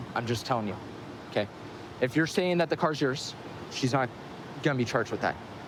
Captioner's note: none